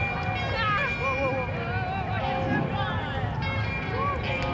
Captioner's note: people exclaiming